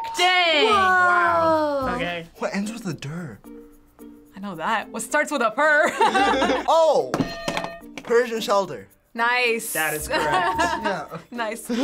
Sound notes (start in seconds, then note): 5.8 both laughing